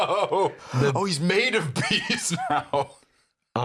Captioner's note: laughs